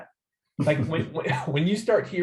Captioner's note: laughs